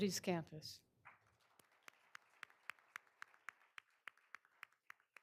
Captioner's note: all applauding